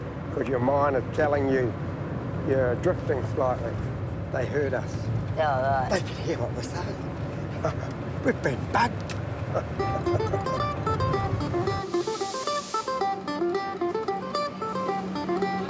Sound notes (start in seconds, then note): 9.5 laughs; 12.2 spanish guitar music